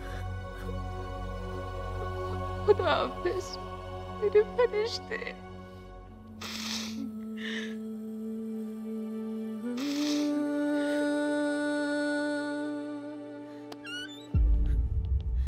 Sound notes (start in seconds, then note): 6.4 Rabiyah sniffs; 13.8 Door opens